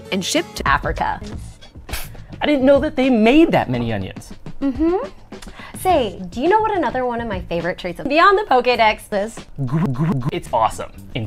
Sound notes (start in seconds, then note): 1.3 pff!; 9.6 weird half-gasp, half-gurgle